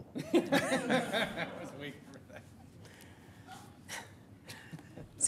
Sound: laughter

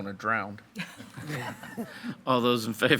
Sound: board members laughing

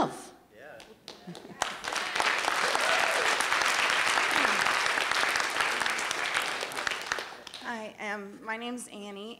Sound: applause

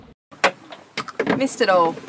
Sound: winch handle bangs

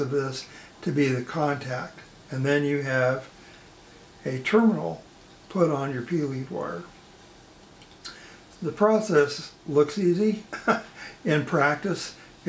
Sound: chuckles

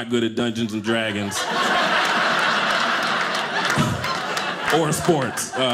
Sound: audience laughing

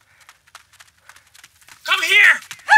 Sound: panting

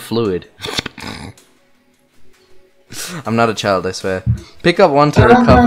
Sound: giggles

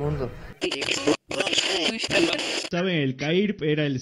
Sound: radio noise

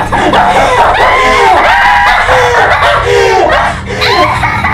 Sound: hysterical laughing

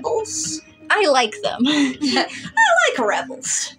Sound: chuckle

